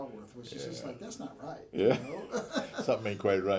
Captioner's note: laughing